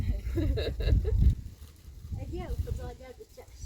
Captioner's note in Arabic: ضحك